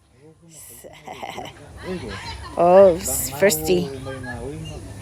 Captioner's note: speaking in Samoan